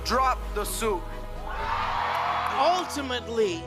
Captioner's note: cheering